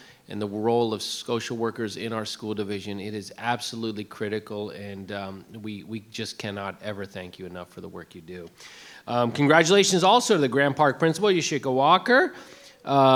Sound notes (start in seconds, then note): none